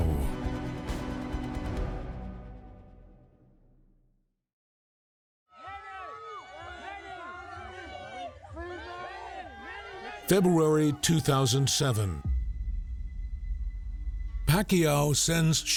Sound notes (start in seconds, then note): 0.0 dramatic music; 5.5 crowd